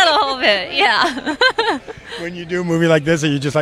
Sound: laughing

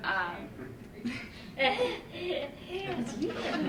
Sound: laughter

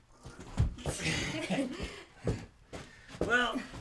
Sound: laughing

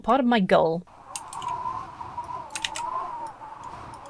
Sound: wind howls; keyboard clatters

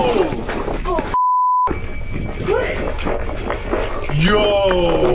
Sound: beep

